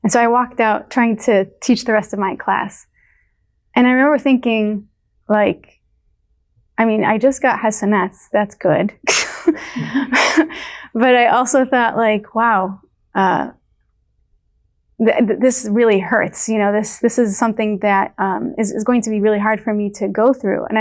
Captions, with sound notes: And so I walked out trying to teach the rest of my class. And I remember thinking like, I mean, I just got hasanats that's good. (People laugh) But I also thought like wow, this really hurts. You know, this, this is something, that is going to be really hard for me to go through.